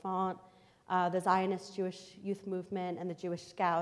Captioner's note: foreign language